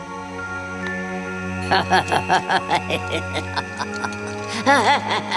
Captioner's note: laughing; laughing continuing